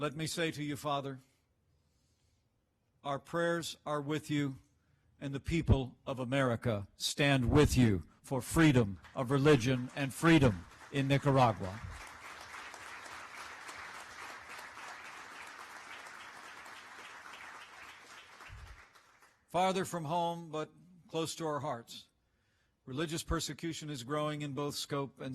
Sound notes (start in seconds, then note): 15.3 applause